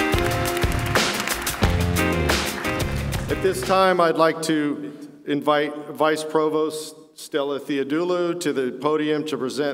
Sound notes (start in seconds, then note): 0.0 applause